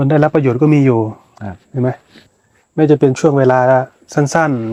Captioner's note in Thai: เสียงสูดหายใจ